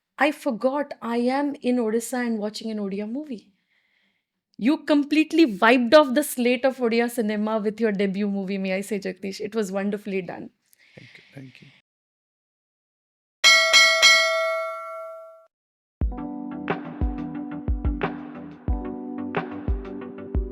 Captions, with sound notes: I forgot I am in Odisha and watching an Odia movie. You completely wiped off the slate of Odia cinema with your debut movie, "May I Say, Jakhthish?" It was wonderfully done. Thank you, thank you. (bell ringing) (upbeat music)